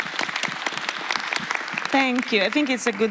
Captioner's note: applause